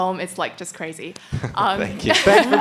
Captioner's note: laughs